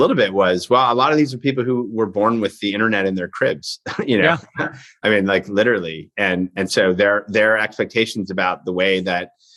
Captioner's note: chuckles